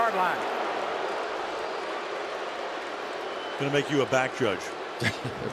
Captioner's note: booing